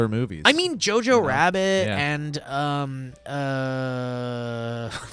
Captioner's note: humming